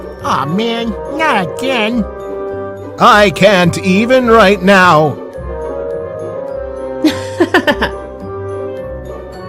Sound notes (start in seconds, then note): 7.1 laugh